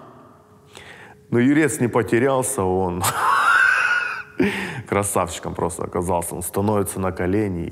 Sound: laughs

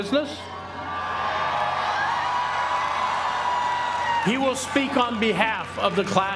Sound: applause

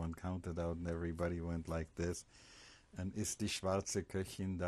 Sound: german

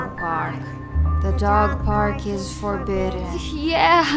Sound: creepy voice

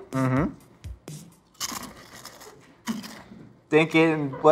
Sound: crunches

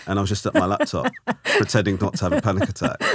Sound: laughing

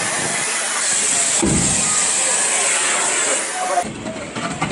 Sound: metal thumps

